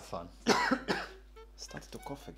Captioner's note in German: hust